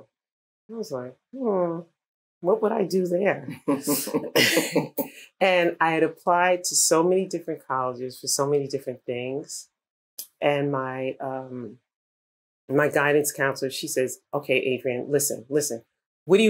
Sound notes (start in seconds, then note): 3.5 laughter